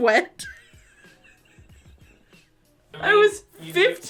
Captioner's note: laughs